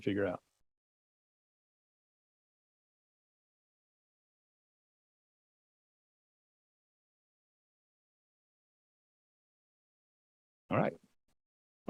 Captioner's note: no sound